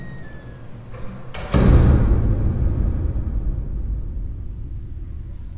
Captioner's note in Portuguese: Porta batendo